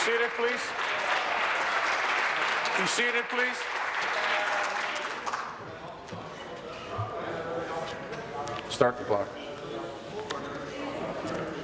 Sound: applause

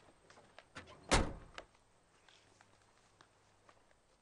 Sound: closes door

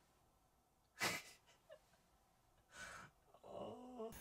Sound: hehehe

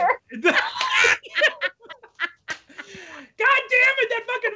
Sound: both laughing

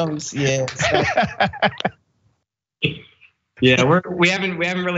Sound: laugh

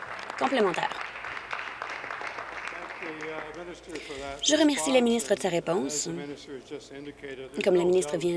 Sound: applause

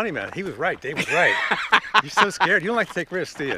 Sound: laughs

